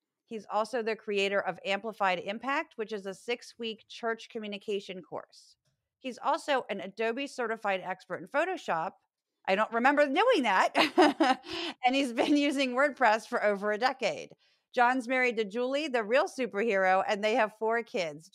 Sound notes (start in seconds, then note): 10.7 laugh